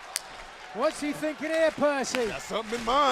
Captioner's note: crowd cheering; crowd chatter